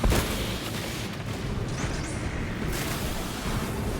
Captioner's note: gunshots